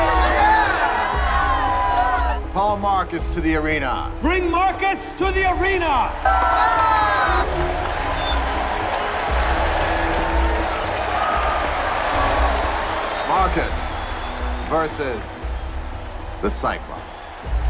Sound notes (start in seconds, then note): 6.3 crowd cheering